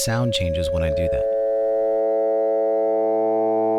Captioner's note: modulated 550 Hz sine wave playing